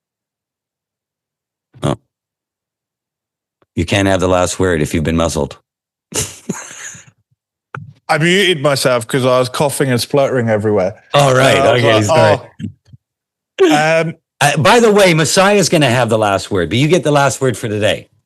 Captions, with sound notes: You can't have the last word if you've been muzzled. (laughs) I've eaten myself because I was coughing and spluttering everywhere. All right, I'll get his back. By the way, Messiah's gonna have the last word, but you get the last word for today.